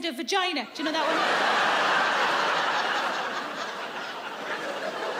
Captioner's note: audience laughs